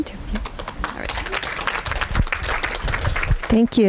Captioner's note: audience applauding